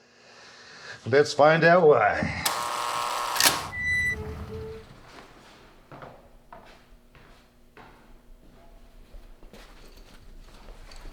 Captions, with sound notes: Let's find out why. [buzzer]